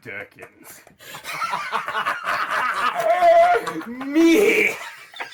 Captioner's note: both laughing maniacally